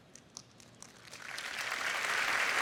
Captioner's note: applause